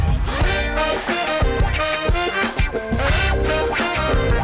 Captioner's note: air whooshes; upbeat music; air whooshes